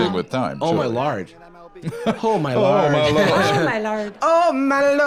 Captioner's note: Irish accent